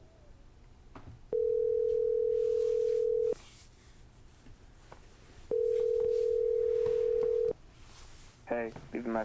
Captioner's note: phone ring tone